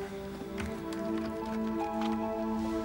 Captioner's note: soft orchestral music; keyboard tapping